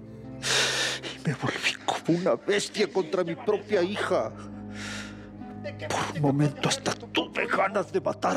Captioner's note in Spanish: solloza